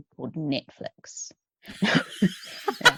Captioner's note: laughter